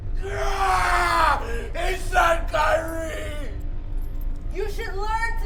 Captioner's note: yells